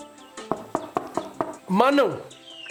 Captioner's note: knocking on the door